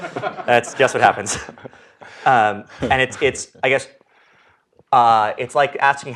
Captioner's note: laugh